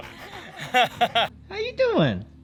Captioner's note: laughing